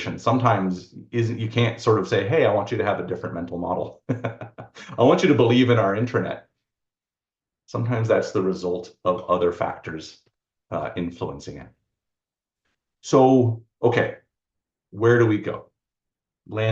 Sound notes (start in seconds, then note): 4.0 laughs